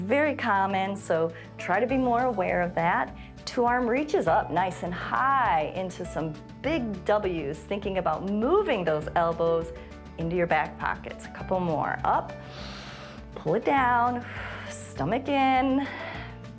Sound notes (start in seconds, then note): 12.3 exhales; 12.4 inhales